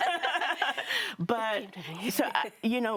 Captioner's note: all laughing